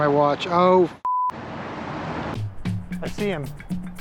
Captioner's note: beep